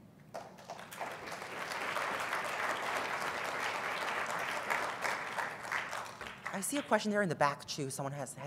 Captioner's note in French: applause